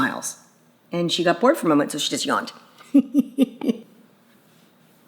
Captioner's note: laughs